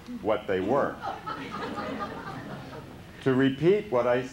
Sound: laughter

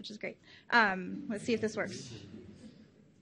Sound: audience chuckles

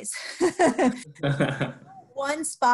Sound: laughing

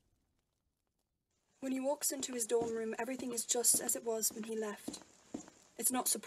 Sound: footsteps

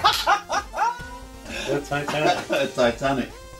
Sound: laughter

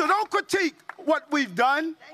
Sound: applause

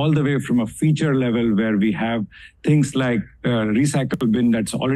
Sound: audio distorts

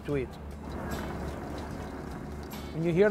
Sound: cashews rattle

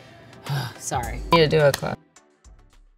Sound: gasps

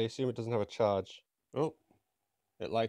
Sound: surprised Bri'ish sounds

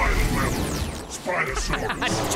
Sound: laughing

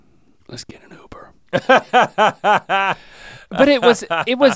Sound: Rhett laughs

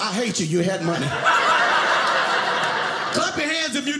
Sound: audience laughing

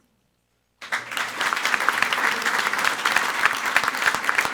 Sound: everyone applauding

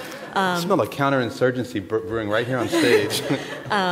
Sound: laughter

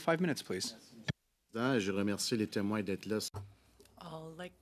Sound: speaking French

